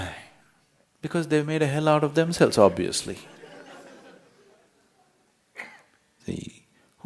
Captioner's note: ضحك